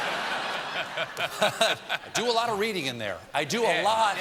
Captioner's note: laughter